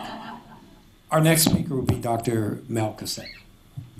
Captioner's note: laughter